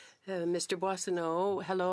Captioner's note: speaking French